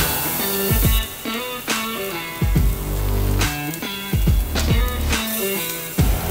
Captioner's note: vegetables and meat sizzling